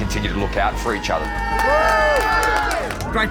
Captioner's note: cheering